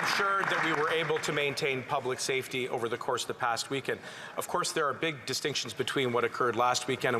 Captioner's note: applause